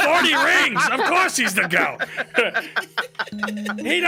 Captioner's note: all laughing